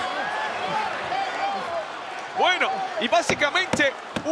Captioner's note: applause